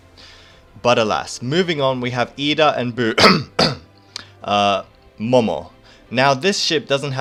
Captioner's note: cough